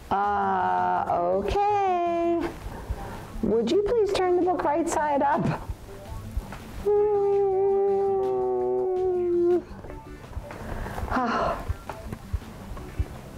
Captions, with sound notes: Uh, okay, would you please turn the book right-side up? [cries] [sighs]